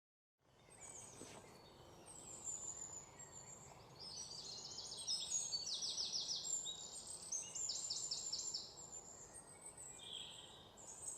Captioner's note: birds whistling